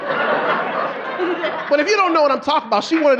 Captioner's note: audience laughing